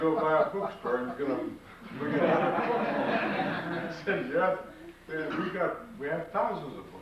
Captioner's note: laughter